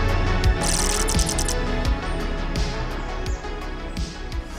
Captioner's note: text chirping